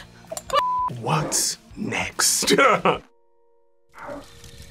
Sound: laughs

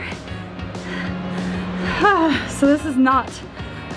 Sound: sighs

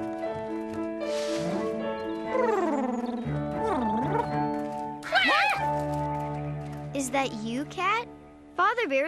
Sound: cat purring; purring; hen & Duck squawking

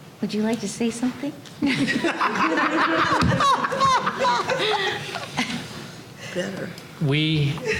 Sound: laughter

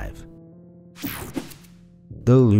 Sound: slide swooshing

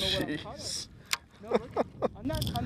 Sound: laughter

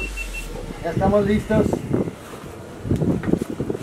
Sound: in Spanish

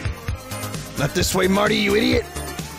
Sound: in strange Rick-Mario hybrid voice

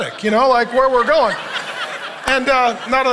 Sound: congregation laughing

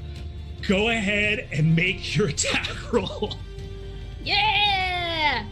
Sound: laughs

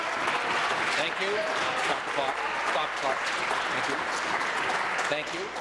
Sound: applause

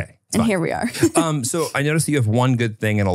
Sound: laughs

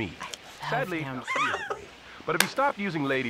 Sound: laughs

